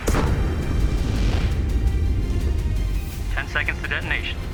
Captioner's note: rocket exploding; fire roaring